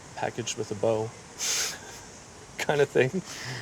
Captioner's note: laughing